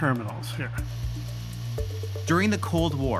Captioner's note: static hissing